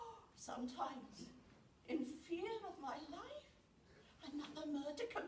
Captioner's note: gasps